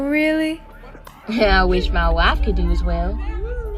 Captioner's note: chuckle